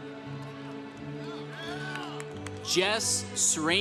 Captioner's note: congregation cheering